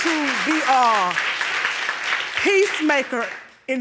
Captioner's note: audience applauding